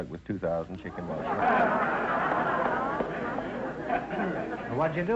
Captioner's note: audience laughter